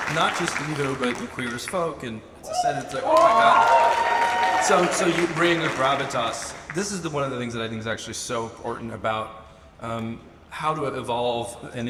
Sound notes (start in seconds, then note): 2.4 audience cheers; 2.5 audience applauds and cheers